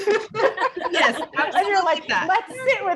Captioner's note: all laughing